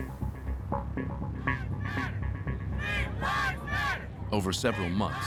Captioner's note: protesters chanting